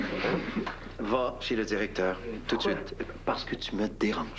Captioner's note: Rires